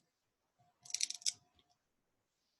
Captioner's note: crackling noise